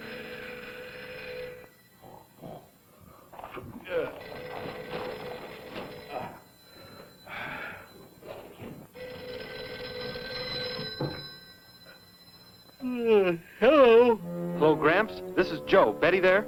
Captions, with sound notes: [ PHONE RINGS ] [ SNORTING, GRUNTING ] [ SIGHS ] [ PHONE RINGS ] Hmm, hello? Gramps, this is Joe. Is Betty there?